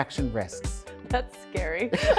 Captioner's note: both laugh; laughs